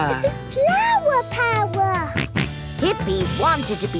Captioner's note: George snorts